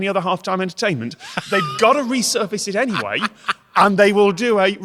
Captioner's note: cackles